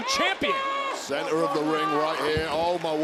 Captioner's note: Toni yelling